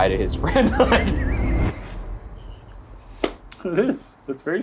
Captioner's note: laughing